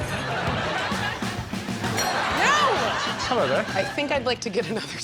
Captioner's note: laughs